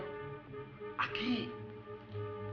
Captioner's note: speaking spanish